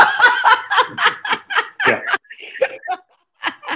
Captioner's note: laughing